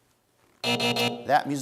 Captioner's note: buzzer sounds